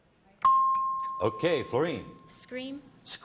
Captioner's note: chimes